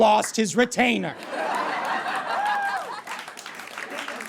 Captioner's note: audience laughs uproariously; audience applauds